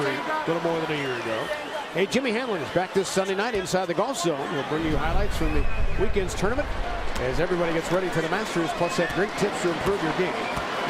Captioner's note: crowd noise